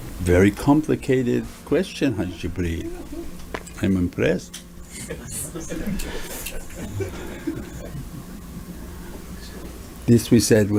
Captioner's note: everyone laughs